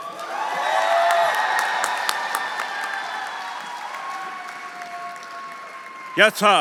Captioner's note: audience applauding; audience cheering